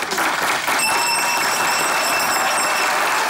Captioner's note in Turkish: Zil sesi